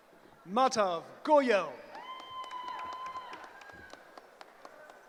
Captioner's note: cheering